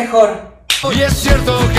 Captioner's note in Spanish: Chasquea los dedos